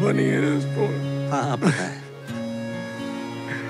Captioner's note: Chuckles